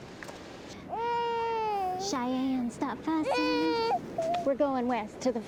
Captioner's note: baby crying